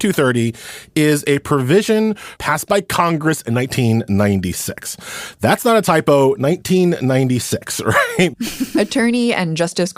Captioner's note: laughs